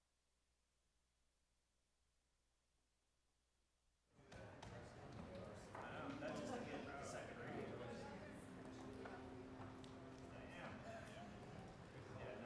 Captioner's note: applause